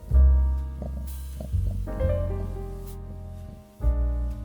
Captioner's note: sniff sniff sniff sniff